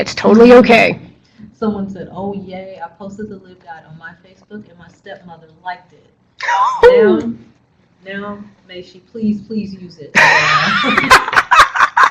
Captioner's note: laughter